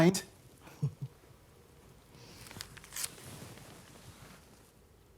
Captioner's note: Evelyn chuckling